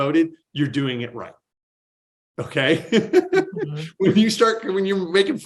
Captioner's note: laughs